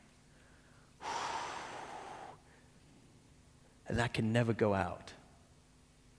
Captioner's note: exhales deeply